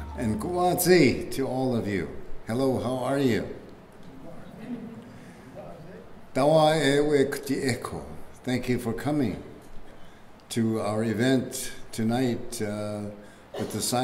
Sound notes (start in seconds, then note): 6.3 speaking keres language